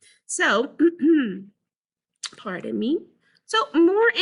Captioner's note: clears throat